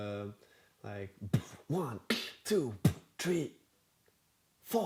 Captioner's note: beatboxing